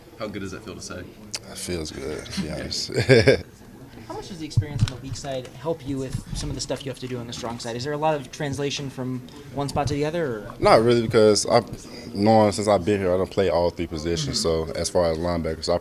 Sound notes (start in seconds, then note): 2.4 laughter